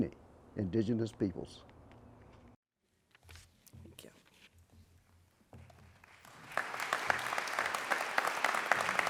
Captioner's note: applause